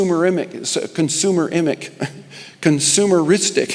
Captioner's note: chuckles